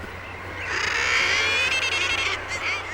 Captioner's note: bird cawing